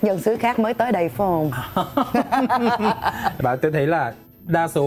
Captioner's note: laughter